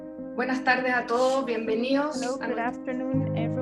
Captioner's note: speaking foreign language